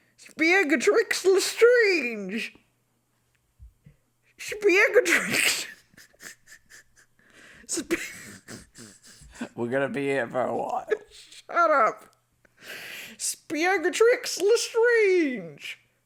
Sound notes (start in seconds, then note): 8.3 laughing